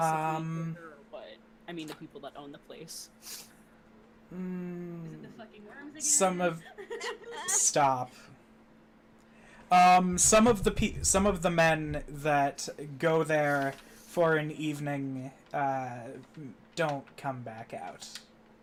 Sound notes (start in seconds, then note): 6.7 laughing